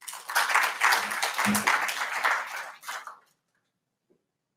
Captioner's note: audience applauds